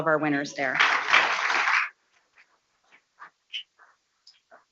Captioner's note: people clapping